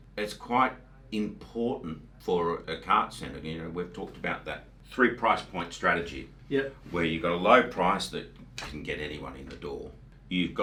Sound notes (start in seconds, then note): none